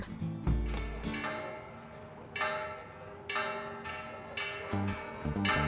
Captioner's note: bells clanging